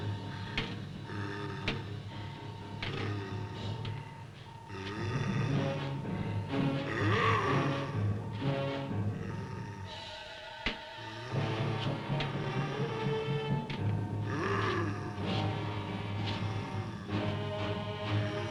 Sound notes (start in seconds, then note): 6.0 thrilling music; 7.2 Popoca growls; 13.4 thrilling music; 14.1 Popoca growling